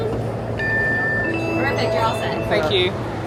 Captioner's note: Magic Band Reader chimes